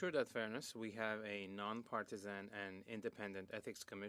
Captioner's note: speaking French